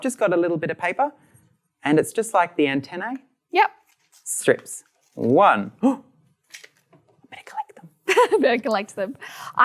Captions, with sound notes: So I've just got a little bit of paper, and it's just like the antenna, - Yep strips. One, (gasps) I'm gonna collect them. - (Laughs) Better collect them.